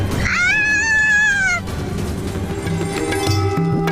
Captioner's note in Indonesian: berteriak